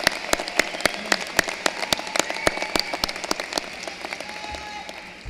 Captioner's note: cheering and applause